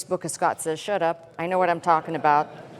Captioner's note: laughter